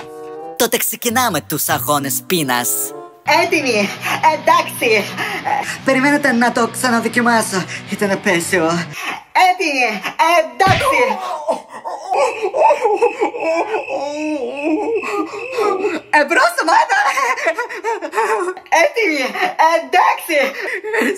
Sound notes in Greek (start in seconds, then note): 10.7 Κλαίει από τον πόνο